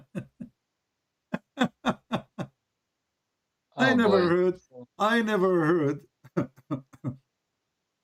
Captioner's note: Ketawa